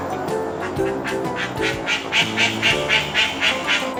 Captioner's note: ducks quacking; quacking